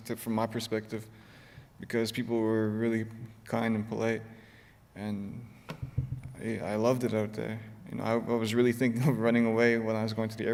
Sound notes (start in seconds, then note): none